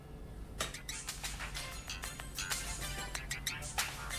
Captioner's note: phone ringing